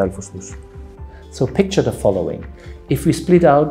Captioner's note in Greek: αγγλικά